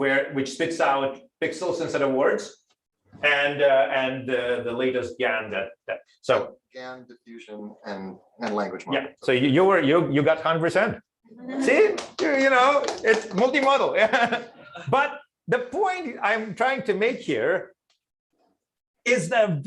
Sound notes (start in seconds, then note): 14.0 applause